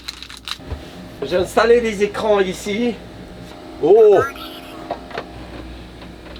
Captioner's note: machine talking - prepare heating